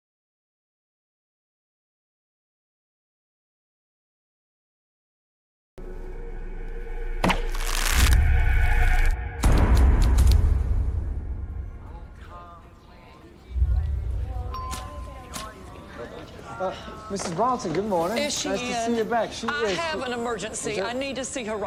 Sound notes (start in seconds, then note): 14.5 doorbell dings